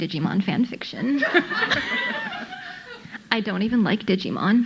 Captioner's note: audience laughing